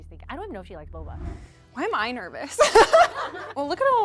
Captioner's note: laughs